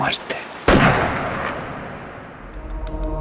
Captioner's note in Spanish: disparo